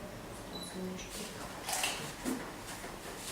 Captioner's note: squishing sound